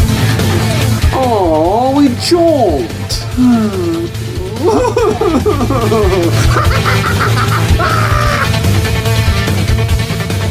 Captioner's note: sobs; laughs maniacally; sigh; screams